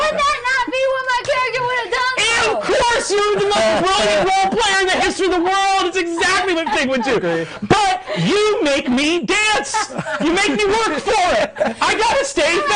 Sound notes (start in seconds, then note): 9.6 laughing